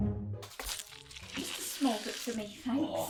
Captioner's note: meat squelches